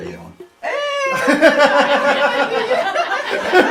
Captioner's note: laughing